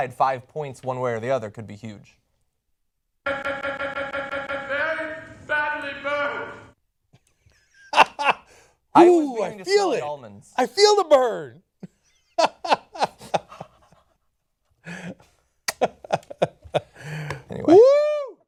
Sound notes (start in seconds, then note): 3.3 "i'm very badly burned" sound effect